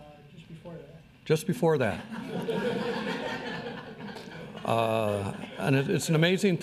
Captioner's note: crowd laughs